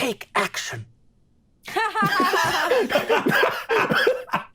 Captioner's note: all laughing